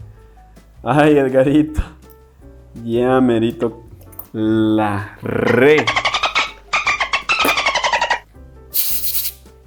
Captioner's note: dolphin noises